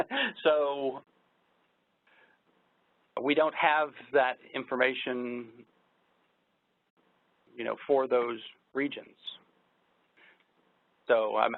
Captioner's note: laughs